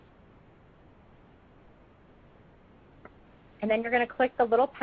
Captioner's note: silence